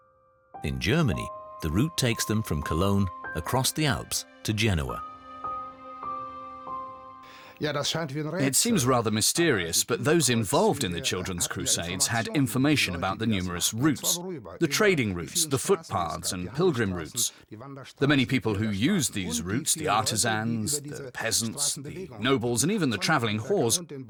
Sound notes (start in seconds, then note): 7.5 speaking German